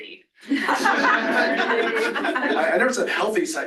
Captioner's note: laughter